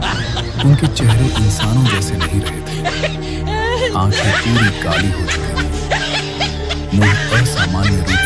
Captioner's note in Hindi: हंसी